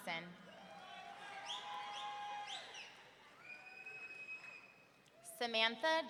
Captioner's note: audience cheering; audience members whistling